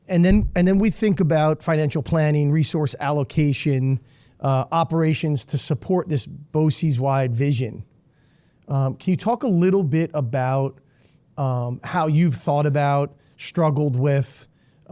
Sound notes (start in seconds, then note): none